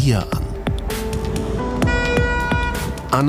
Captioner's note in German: Hupe